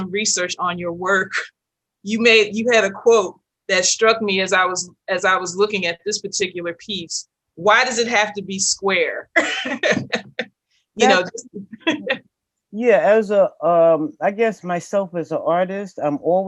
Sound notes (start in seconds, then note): 11.0 laughs